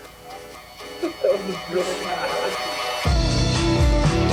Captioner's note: laughing